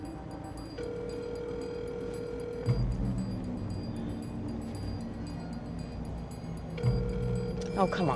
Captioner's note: phone ringing